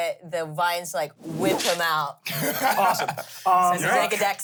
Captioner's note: laughs